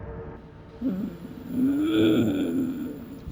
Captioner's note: Growls like an orcish Marge Simpson